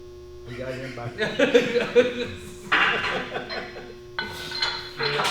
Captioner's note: laughs loudly